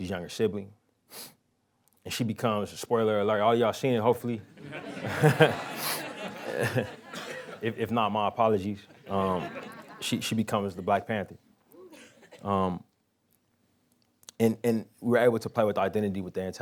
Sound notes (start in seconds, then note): 4.6 laughing